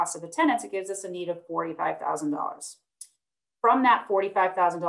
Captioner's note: clicking